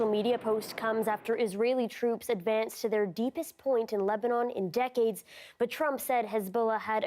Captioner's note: explosion